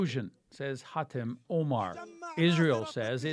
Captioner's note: speaking alternate language